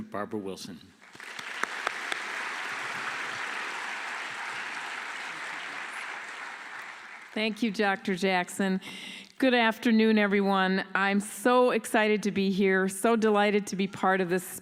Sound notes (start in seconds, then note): 3.0 applause